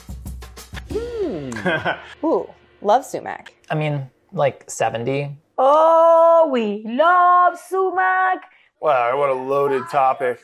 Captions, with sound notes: [humming] [giggling] - Ooh, love sumac. - I mean, like 70. - Oh, we love sumac. - What a loaded topic.